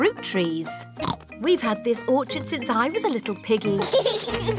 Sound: oinks; children giggle

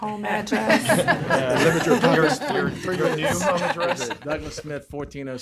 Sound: laughter

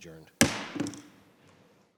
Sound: chair bangs gavel

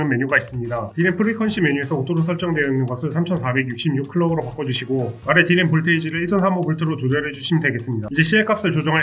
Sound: clock

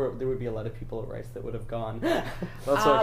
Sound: laughs

